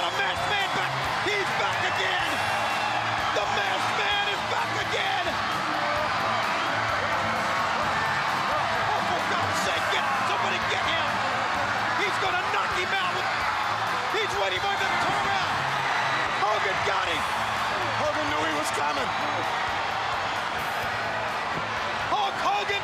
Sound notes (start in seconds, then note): 15.4 crowd cheering